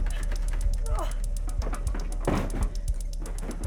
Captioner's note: pounding on door; Sue grunts